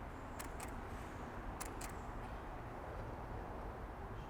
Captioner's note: clicking